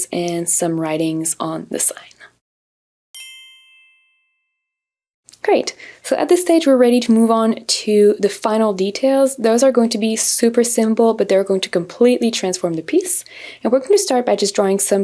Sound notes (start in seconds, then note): 3.1 soft chimes